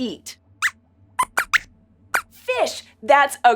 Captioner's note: squeaks squeaks